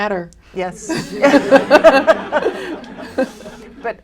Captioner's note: laughter